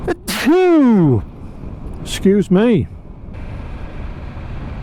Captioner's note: sneeze